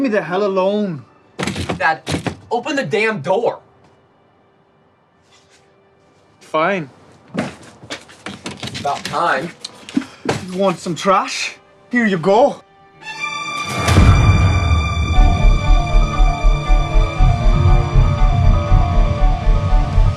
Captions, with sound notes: - Then leave me the hell alone. - Dad, open the damn door. - Fine. (door opens) - It's about time. - You want some trash? Here you go. (suspenseful tense music)